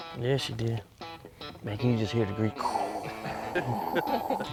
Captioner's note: blowing noise